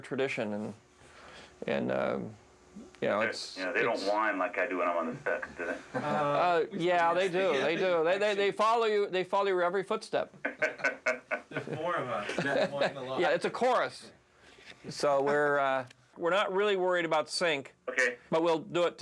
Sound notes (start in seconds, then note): 10.4 laughing